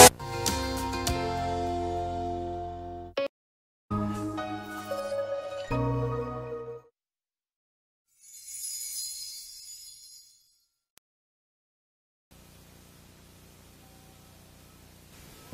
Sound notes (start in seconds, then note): 8.2 gentle chimes; 13.4 VHS static on TV